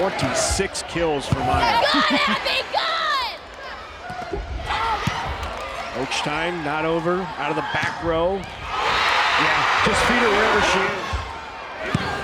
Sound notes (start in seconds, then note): 1.7 laughs; 8.8 crowd and players cheering